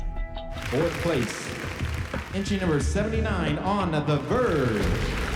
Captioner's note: applause